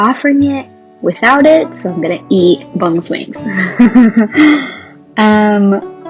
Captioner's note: laughs